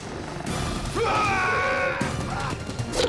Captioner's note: yells